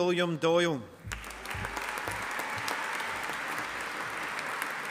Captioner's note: audience applauding